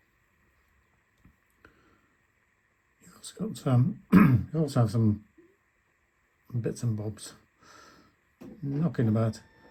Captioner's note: coughs